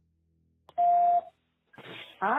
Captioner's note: phone dial beeps